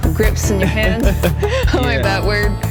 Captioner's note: both laugh